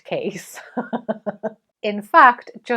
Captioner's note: laughing